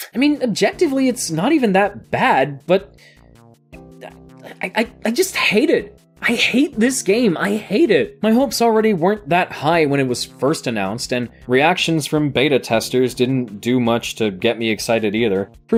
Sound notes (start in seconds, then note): 3.8 stammers